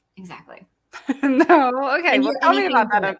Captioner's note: laughs